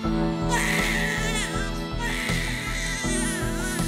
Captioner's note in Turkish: Bebek ağlıyor